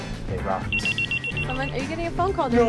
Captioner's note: cell phone ringing